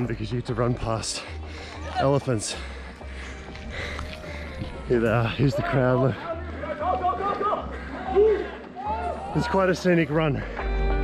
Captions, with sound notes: because you get to run past elephants. Here, here's the crowd. (yelling in foreign language) It's quite a scenic run.